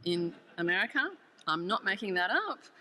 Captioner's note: audience laughs